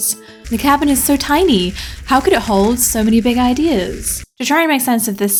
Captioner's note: crackling fire